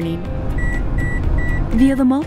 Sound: four beeps

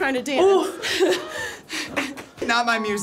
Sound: laughs

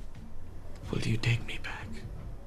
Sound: quietly

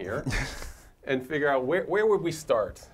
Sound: laugh

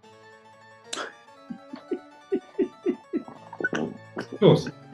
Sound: giggling

